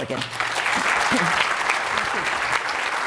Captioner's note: audience clapping